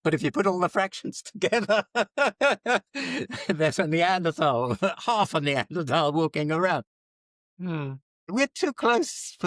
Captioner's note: laughs